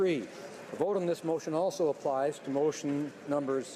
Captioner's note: speaking French